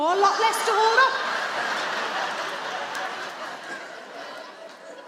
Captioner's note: audience laughing